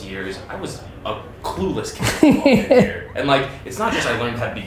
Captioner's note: Gary laughs